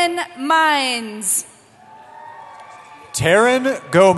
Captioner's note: cheering